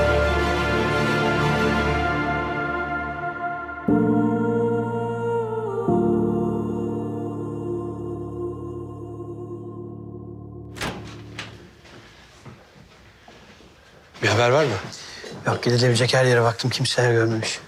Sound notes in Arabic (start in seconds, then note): 3.6 موسيقى درامية; 10.7 يفتح الباب